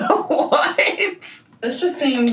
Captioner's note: laughing